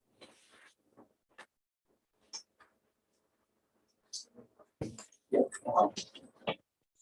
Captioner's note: indistinct conversation